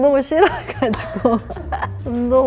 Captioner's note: haha